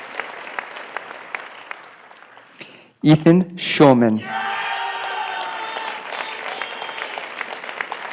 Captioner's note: applause